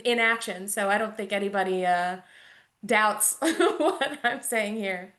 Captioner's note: chuckles